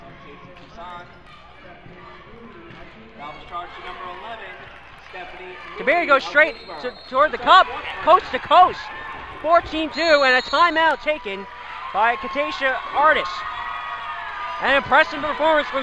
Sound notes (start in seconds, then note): 8.7 crowd cheers